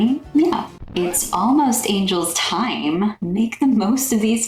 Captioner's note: record scratch